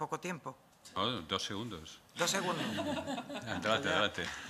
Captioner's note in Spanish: Risas